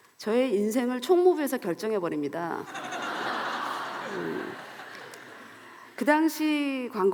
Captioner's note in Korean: 웃음